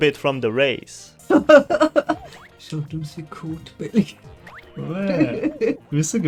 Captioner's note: laughs